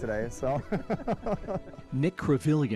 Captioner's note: laughs